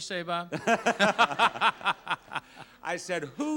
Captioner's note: both laugh